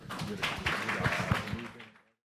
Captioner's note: audience applauding